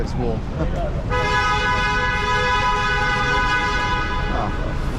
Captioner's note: car beeping